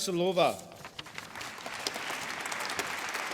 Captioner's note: applause